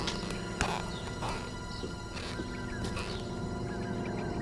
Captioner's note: boards creek underfoot